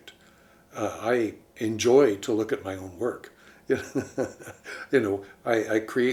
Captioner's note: chuckles